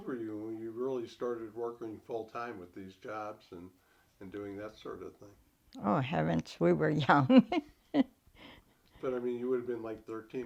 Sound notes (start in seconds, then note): 7.0 chuckles